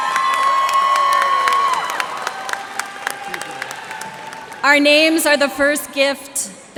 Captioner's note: cheers and applause